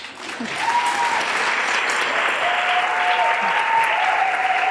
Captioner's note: audience applause